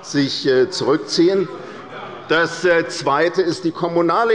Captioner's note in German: Zurufe von der SPD